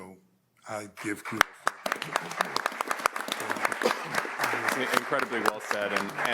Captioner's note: audience applauds